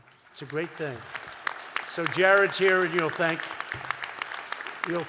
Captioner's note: applause